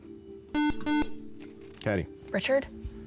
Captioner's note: buzzer